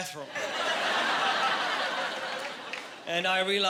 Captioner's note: laughing